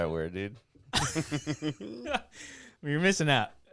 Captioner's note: laughing